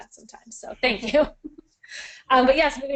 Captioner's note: chuckling